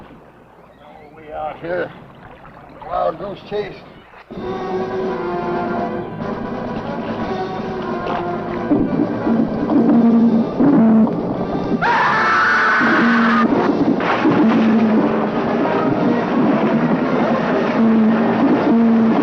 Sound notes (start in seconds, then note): 4.3 suspenseful music; 11.8 both screaming; 14.3 water splashing